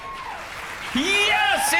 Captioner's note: crowd applauds